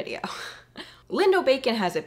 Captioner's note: chuckling